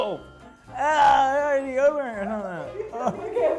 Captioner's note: groaning